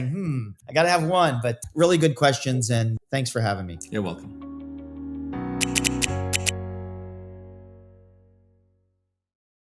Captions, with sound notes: "Hmm, I gotta have one." But really good questions and thanks for having me. You're welcome. (instrumental music plays) (typewriter sounds)